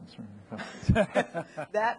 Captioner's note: people laughing